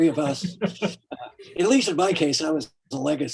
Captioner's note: laughing